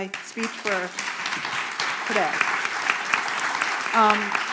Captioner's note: applause